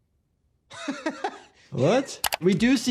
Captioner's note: civilian laughs